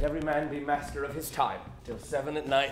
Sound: footsteps

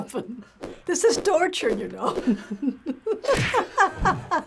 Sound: laughs

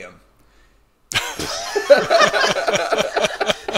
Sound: laughter

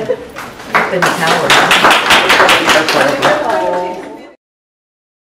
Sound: audience clapping

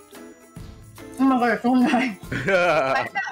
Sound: laughs

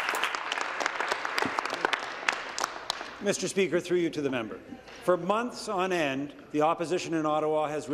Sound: applause

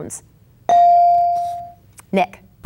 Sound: bell dinging

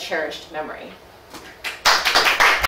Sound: audience applauding

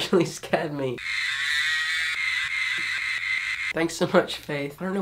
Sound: laughs; cow mooing

